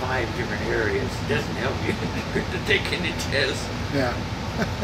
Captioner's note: laughs